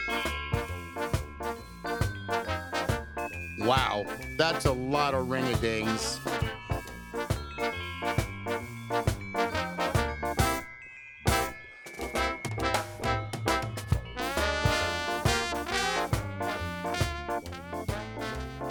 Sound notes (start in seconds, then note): 0.1 bells ringing; 0.1 ska music; 7.1 bells ringing; 7.1 ska music